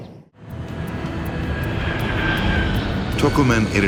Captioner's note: plane engine roars